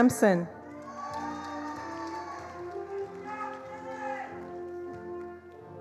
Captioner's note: attendees applauding